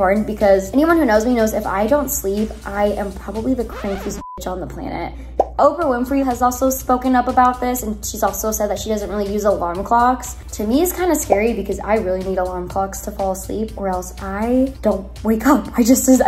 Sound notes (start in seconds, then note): 3.6 beep